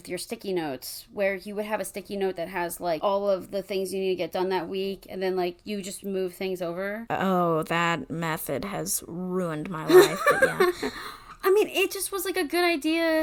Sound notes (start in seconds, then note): 9.8 laughs